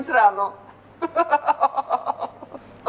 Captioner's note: hohoho